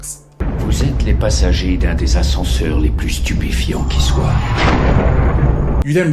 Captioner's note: french rod serling speaking french